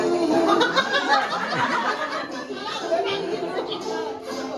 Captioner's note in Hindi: हंसी